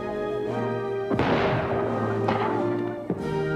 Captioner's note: shot sound